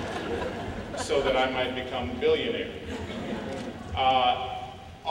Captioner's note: laughing